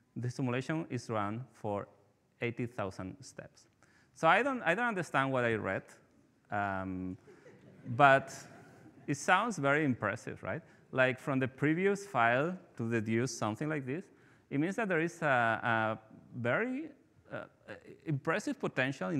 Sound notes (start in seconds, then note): 7.2 participants laughing